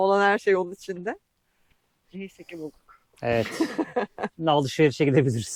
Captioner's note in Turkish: kahkaha